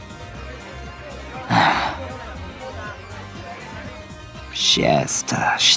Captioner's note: sigh